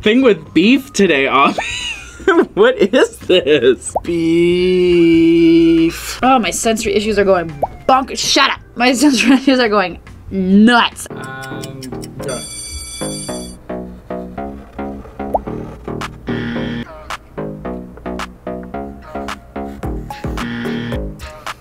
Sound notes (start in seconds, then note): 2.9 laughs; 12.2 bell rings; 16.3 buzzer; 20.4 buzzer